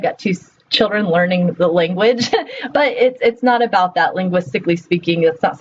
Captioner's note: laughs